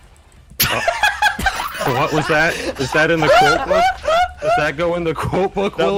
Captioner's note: laughing